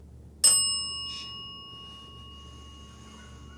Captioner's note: bell dings